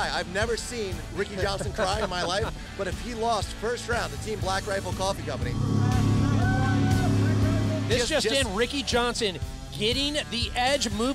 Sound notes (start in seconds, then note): 4.8 jetboat sounds; 5.6 whooping